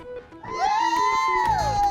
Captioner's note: cheering